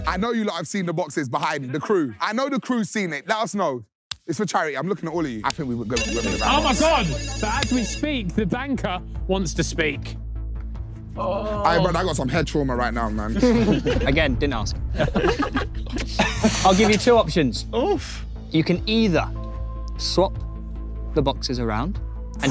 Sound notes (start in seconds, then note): 5.9 phone ringing; 13.3 laughing